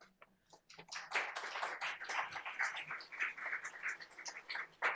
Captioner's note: audience applaud